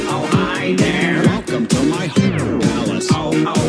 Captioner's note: beewwwwwwww